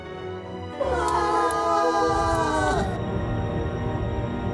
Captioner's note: all scream